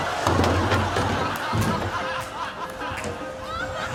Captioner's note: laughter